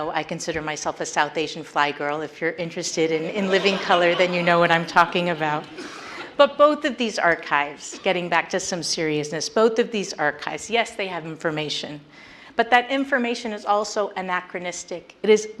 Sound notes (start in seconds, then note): 3.2 audience laughs